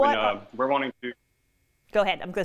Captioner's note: sound draws away